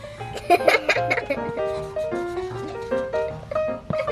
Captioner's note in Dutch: lacht